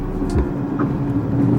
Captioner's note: clunk